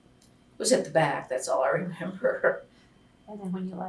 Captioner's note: laughs